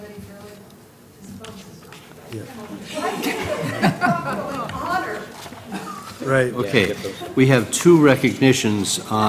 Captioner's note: laugh